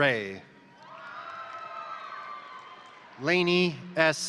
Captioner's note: crowd cheering; crowd applauding